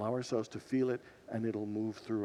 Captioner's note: none